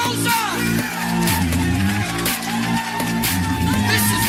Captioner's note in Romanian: Aplauze